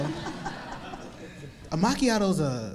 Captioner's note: audience laughing